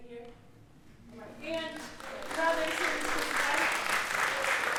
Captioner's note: applause